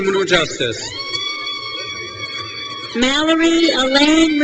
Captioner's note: crowd cheers